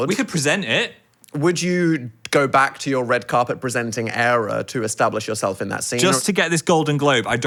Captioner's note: none